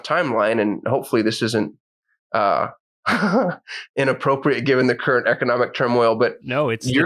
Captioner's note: laughs